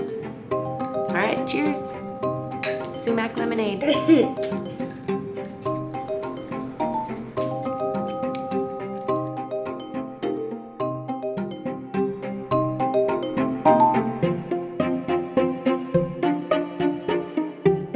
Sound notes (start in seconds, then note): 3.8 giggles; 7.2 light-hearted percussive music